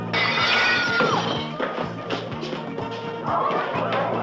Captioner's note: glass shattering; screaming